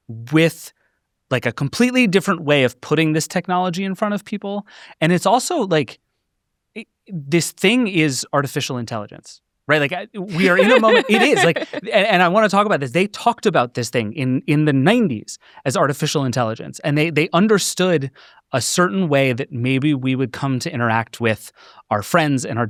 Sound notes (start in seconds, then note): 10.2 laughs